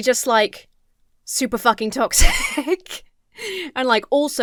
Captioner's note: laughs